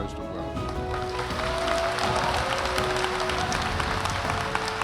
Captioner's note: audience applauding